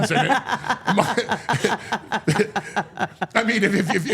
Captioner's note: all laughing